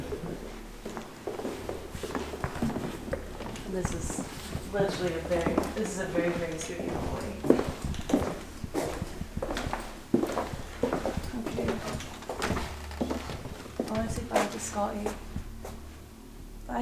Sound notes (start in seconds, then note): 3.8 footsteps; 9.2 footsteps